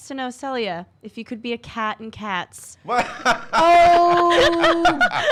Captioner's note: laughs